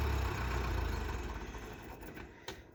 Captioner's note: tractor motor shuts off